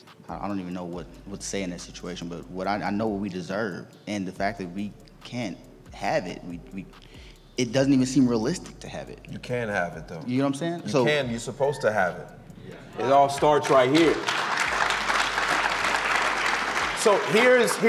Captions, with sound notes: I don't even know what to say in this situation, but I know what we deserve and the fact that we can't have it, it doesn't even seem realistic to have it. - You can't have it though. - You know what I'm saying? - You can you're supposed to have it? (audience cheers) It all starts right here. (audience claps)